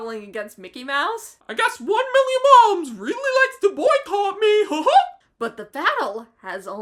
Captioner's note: in a Mickey voice